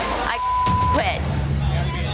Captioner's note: beep; intense music